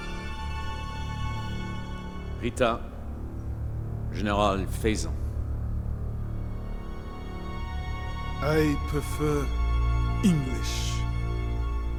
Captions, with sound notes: - (speaking in foreign language) General Faizan. - I prefer English.